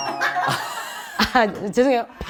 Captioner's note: he laughs for her